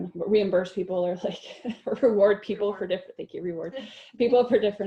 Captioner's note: laughter